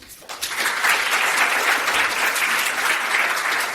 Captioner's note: applause